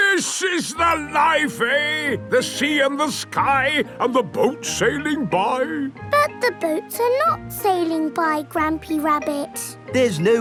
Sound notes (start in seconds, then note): none